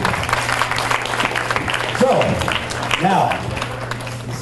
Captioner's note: audience applauds